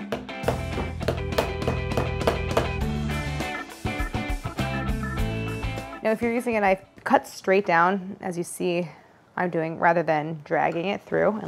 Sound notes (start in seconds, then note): 0.0 upbeat instrumental music; 0.4 dough whacking; 2.9 upbeat instrumental music